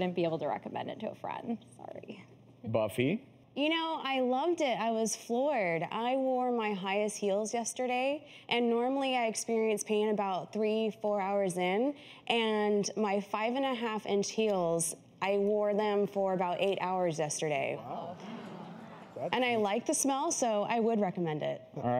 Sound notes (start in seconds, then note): 17.8 audience mumurs